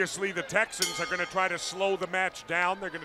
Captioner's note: bell ringing